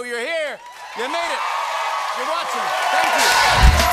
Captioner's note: cheers and applause